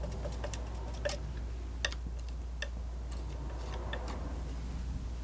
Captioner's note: tapping